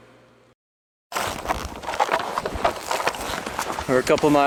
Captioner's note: crunching